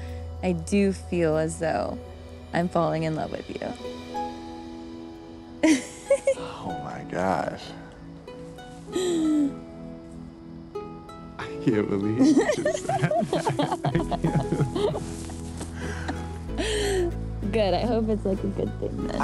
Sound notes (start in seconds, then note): 5.6 giggles; 12.1 both giggling